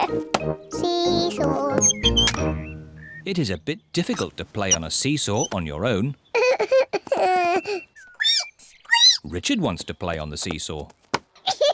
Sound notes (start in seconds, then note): 6.3 sobs; 8.3 squeaks